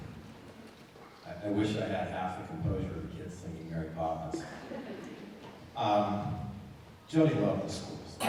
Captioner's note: laughter